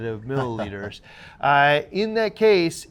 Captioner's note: chuckles